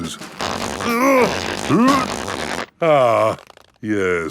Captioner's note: grunting